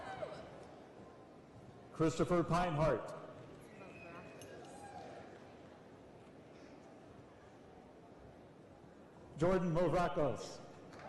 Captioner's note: applause